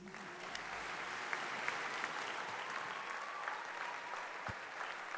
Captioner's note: audience applauding